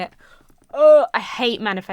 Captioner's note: gags